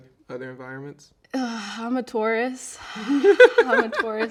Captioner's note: laughing